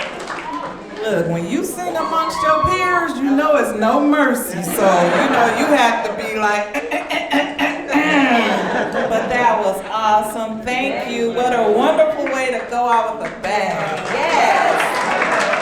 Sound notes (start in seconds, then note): 6.8 exaggeratedly clearly throat